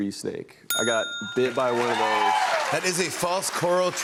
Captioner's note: bell dings